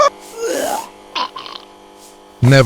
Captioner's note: vomiting again